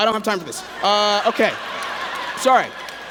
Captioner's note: laughter